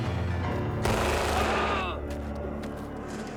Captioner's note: gun fires; man screams